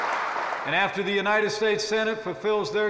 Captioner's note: applause